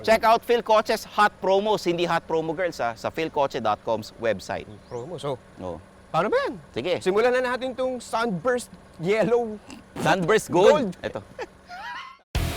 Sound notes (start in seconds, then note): 4.7 whispering; 11.3 both laughing; 12.3 rock music plays